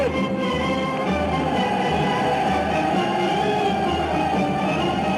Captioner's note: army shouting